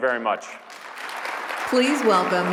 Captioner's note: applause